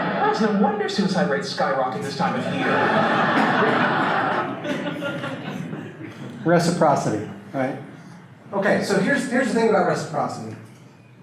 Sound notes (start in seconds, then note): 1.9 audience laughter